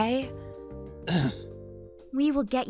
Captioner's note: sigh